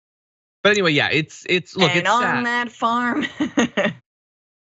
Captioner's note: laugh